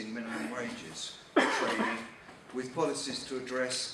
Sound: man coughing

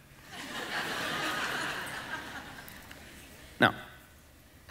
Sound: congregation laughing

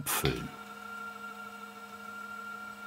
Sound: machine whirring

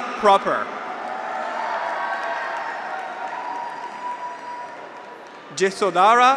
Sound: graduates cheer; audience applauds

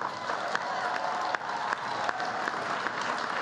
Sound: applause

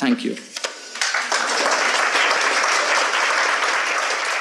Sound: audience applauds

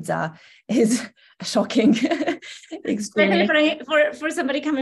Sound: chuckles

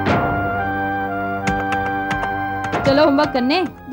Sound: keyboard clacking

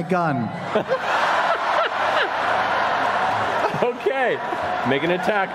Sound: cheering

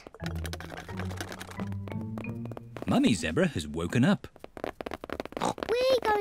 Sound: pattering; oinks

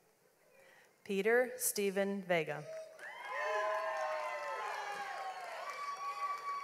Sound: audience applauds

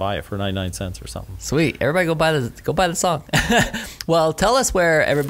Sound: laughs

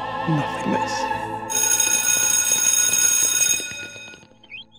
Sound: school bell rings

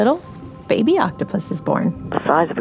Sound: A metallic sound rings out. We’re going underwater

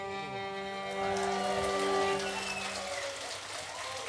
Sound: applause

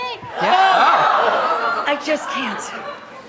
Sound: audience gasps

